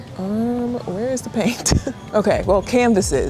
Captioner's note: laughing